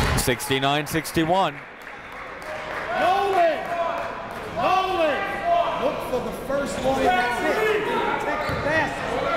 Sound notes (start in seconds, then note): 2.6 coaches yelling